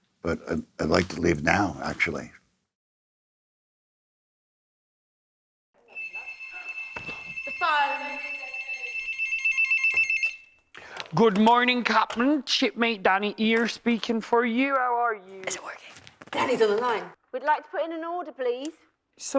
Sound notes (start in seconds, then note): 5.8 phone ringing; 11.0 pirate accent; 15.6 whispering